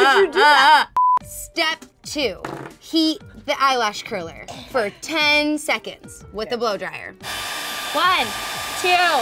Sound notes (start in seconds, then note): 1.0 beep